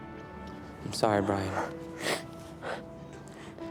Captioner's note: brian sobs